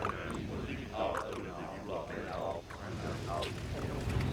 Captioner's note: speaking alien language